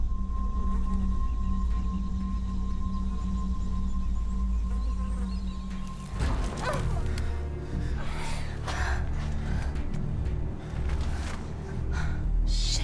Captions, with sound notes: [fly buzzing] [twigs rustle] DON'T STOP! OH! OHH! AHH!